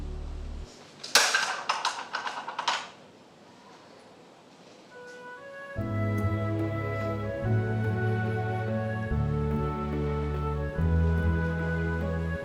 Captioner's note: box clatters